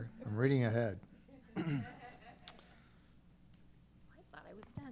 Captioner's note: laughter